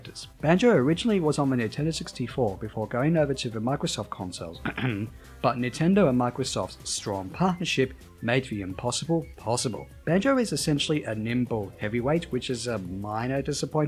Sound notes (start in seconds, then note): 4.6 ahem